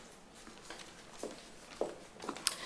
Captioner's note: foosteps